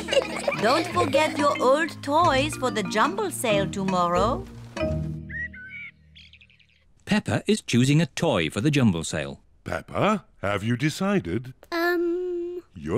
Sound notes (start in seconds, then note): 0.0 children giggling; 5.2 birds chirping